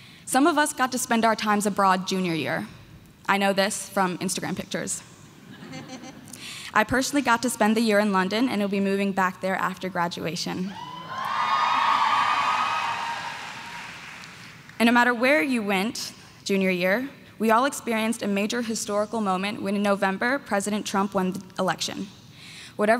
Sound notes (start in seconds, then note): 10.7 crowd cheering